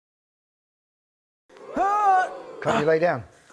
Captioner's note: grunts